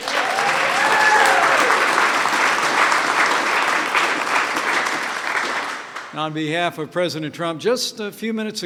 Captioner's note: applause